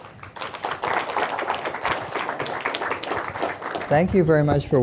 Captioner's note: audience applauding